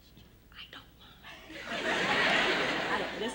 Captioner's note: laughter